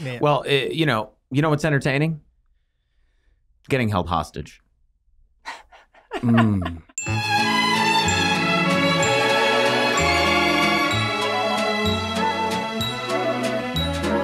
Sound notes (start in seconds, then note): 5.4 laughs; 6.9 cheerful ambient music